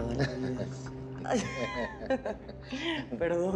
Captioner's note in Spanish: Risas